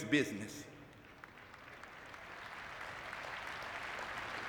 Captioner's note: audience clapping